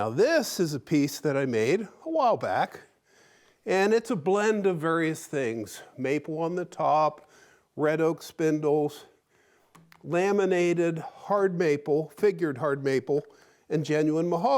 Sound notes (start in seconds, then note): none